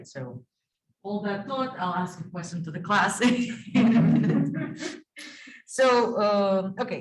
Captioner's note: laughing